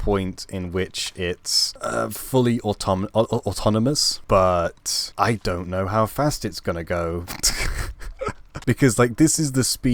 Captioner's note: laugh